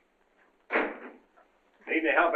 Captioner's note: door slams